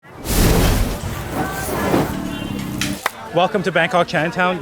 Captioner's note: fire roaring